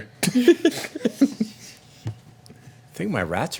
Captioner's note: laughter